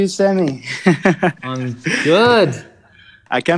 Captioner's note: laughs